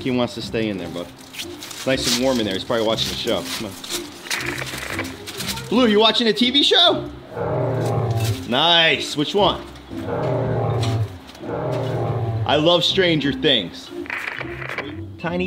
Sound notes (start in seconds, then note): 7.2 animal groans; 9.9 animal groans; 14.0 static crackles